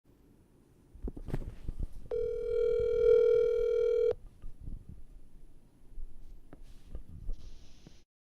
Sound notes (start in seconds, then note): 2.1 phone ringing